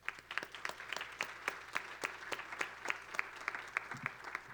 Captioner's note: applause